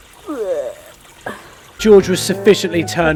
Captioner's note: making a puking noise